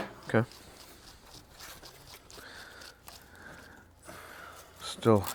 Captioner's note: bristles scrape